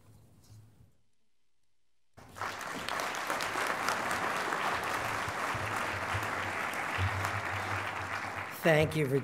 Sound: applause

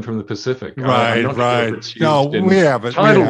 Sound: chattering

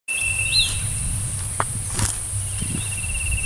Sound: footsteps

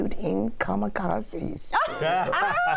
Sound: laughter

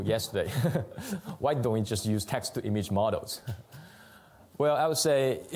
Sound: laughs

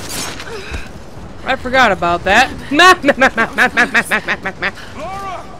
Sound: laughs maniacally

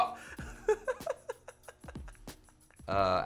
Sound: laughs

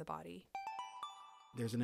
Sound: chime

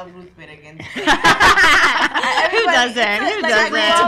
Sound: laughs

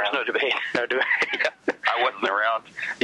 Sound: laughs

